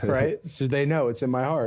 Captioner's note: both laughing